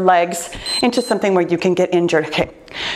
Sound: timer beeps

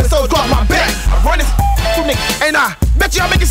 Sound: bird whistles

